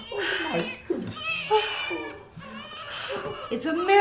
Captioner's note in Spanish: Bebe Llorando